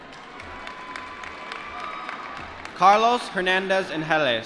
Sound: applause

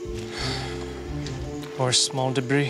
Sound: sighs heavily

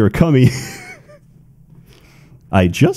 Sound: laughter

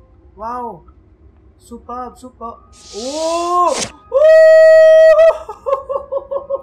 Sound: screams

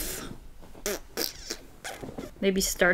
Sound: blows raspberries

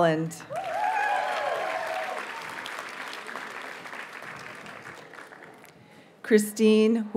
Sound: audience cheers and applauds

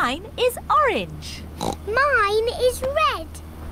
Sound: oinks

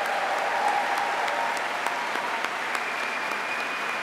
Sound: applause

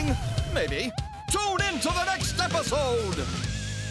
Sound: narrator Voice

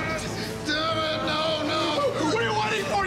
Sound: men screaming

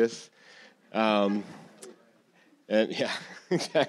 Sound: audience chuckling; laughs

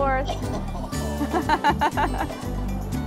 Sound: laughter

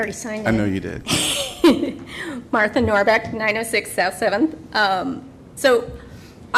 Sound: laughter

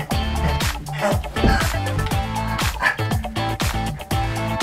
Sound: panting; still Panting

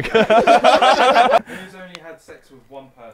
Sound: people laughing

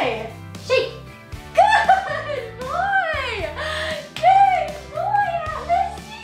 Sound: claps

